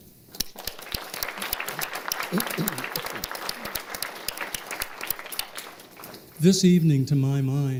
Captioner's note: applause